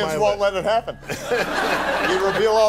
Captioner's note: audience laughter